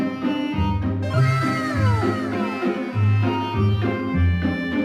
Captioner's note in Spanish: sonidos de anime